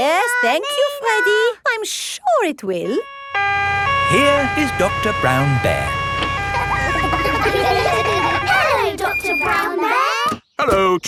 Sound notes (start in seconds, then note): 3.0 siren wailing; 6.9 kids laughing